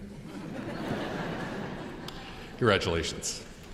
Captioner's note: audience laughs